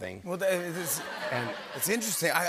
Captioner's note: laughter